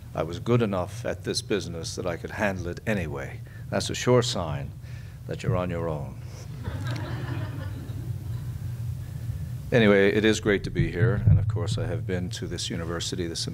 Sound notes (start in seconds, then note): 6.6 audience laughs